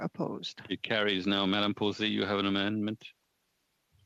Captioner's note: speaking French